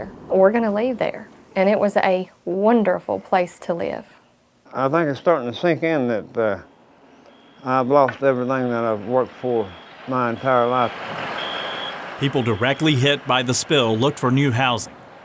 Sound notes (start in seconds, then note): 11.3 alarm beeping; 11.3 engine idling